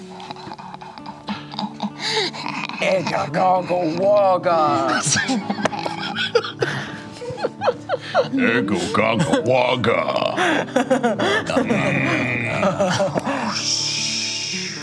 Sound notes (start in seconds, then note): 0.8 laughs tauntingly; 4.9 laughter; 8.9 grunting